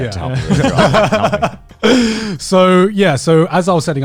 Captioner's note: hosts laughing